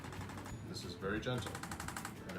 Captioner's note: arthrostim clicks